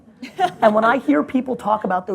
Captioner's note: laughs